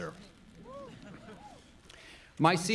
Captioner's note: audience laughing